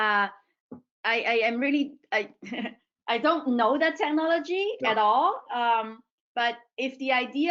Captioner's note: chuckles